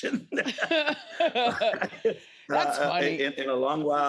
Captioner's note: laughs